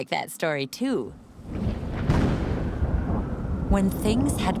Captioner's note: thunder